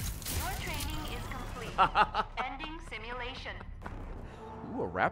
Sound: laughs

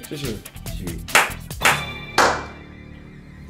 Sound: claps, claps

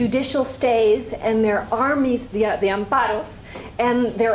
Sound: spanish

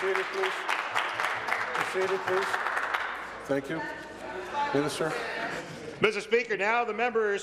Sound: applause

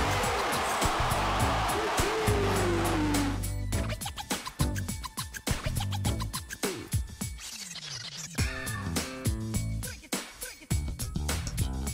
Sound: cheers

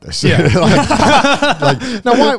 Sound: everyone laughs

